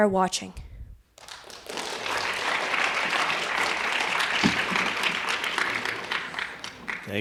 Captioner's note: applause